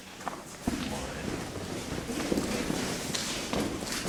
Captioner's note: fooststeps